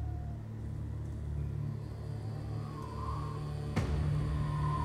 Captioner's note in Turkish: Gerilim müziği; Rüzgâr esiyor